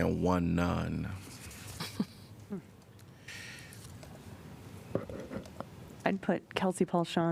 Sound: laughter

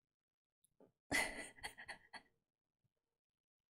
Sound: laughs

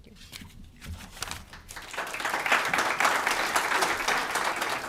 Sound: applause

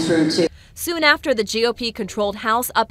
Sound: hecklers

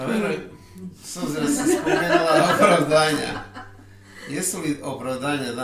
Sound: laughter

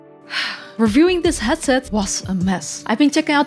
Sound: sigh

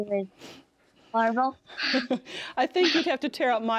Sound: both laugh

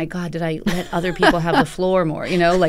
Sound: laughter

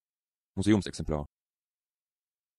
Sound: fast Pronunciation

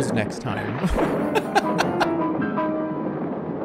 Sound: laughs

